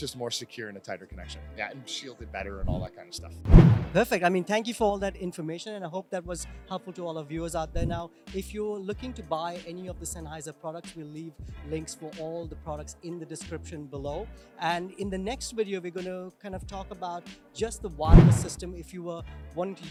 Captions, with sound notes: It's just more secure and a tighter connection and shielded better and all that kind of stuff. (whoosh) (poof) - Perfect, I mean, thank you for all that information and I hope that that was helpful to all of the viewers out there. Now, if you're looking to buy any of the Sennheiser products, we leave links for all the products in the description below. And in the next video we're gonna talk about just the wired system if you were wanting